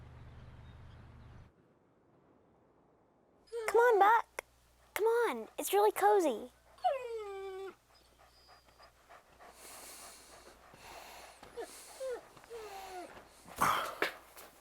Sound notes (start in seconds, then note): 3.7 Buck whines; 6.6 Buck whining; 7.2 panting